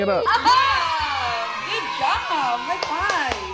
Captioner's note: laughs